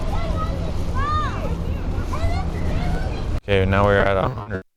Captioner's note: children chatter